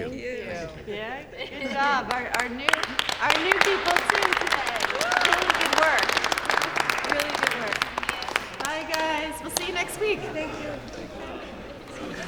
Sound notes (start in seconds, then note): 4.8 applause